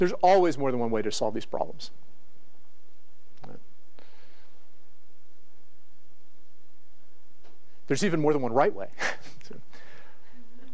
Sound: laugh

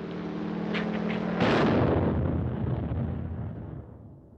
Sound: explosion

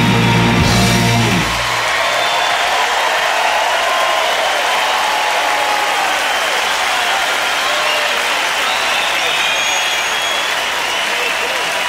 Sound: cheering

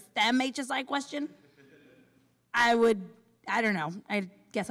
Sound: laughter

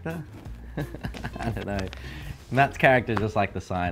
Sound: laughs

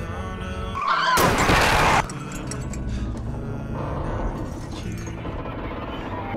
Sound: sound of cars crashing

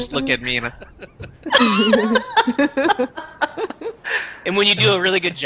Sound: laughter

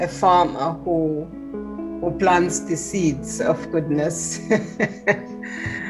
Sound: laughs

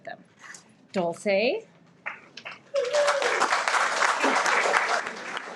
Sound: everyone applauds

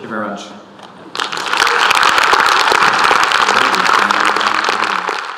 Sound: audience clapping

